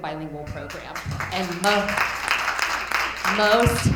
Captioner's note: attendees applauding